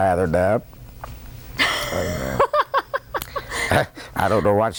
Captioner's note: laughter